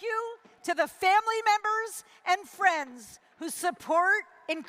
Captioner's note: none